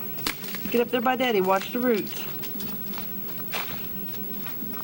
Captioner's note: sound of walking